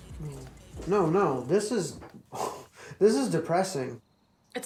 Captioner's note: scoffs